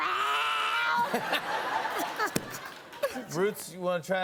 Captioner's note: laughter